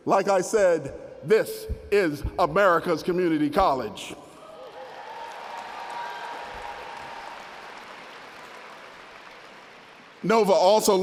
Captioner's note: applause